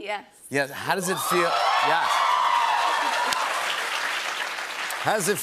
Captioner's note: cheers and applause